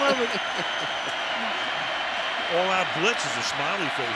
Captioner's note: laughs